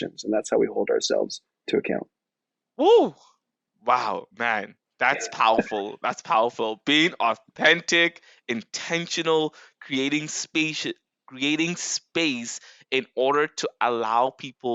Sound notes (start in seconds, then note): 5.1 laughs